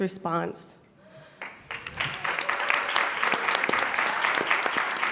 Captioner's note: audience clapping